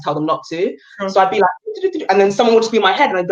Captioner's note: busy noise